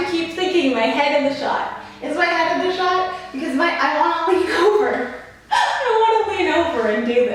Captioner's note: laughs